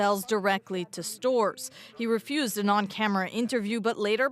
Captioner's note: speaking french